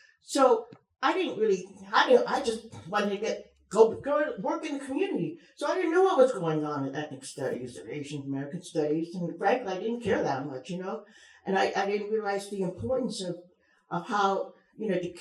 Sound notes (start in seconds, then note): none